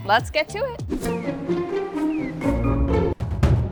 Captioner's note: suspenseful whimsical music; air whooshing; dramatic music